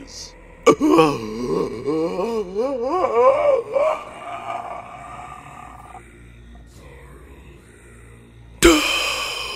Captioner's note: deeply-strained inhaling